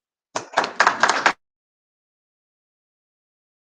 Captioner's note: audience applauds